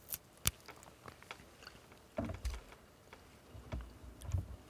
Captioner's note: celery snapping